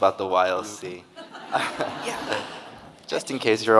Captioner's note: audience laughing